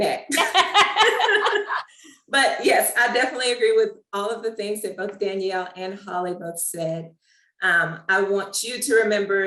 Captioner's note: laughs